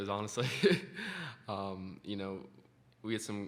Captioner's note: laughs